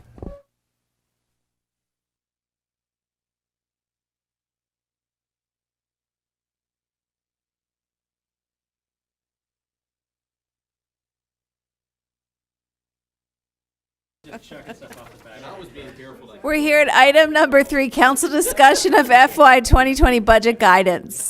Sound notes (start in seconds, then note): 8.0 silence